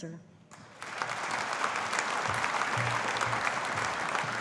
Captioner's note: audience applauding